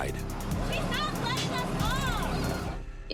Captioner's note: child speaking